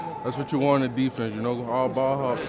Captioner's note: group chattering